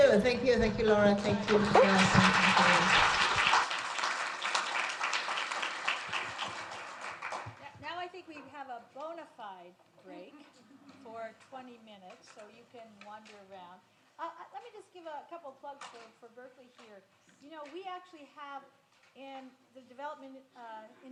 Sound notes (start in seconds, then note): 1.2 audience applauds